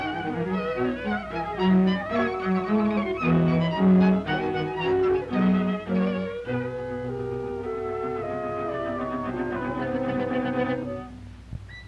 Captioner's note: children playing